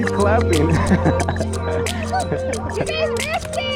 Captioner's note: laughs